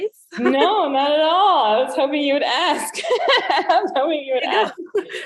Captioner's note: laughs